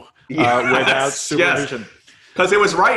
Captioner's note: laughing